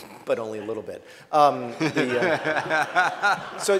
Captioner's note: laughter